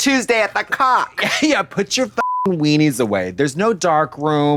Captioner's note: beep